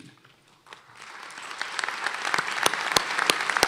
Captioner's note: applause